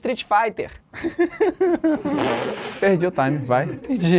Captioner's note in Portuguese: risadas